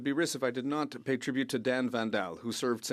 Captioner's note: speaking French